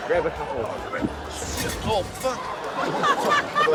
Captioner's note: crash!; laughter